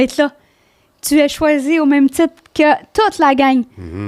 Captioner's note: in french